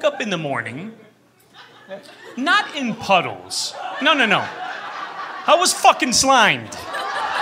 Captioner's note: laughter; laughter, groans